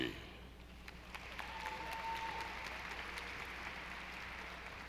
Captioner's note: audience applauding